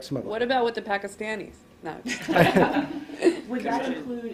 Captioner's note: laughter